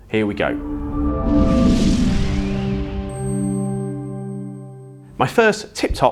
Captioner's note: gentle music; graphics whooshing